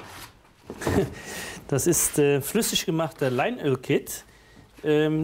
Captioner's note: laughing